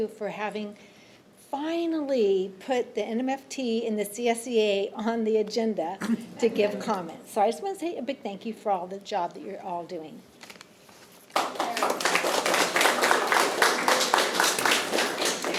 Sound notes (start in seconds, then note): 11.3 attendees applauding